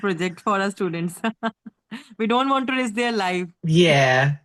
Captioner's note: laughs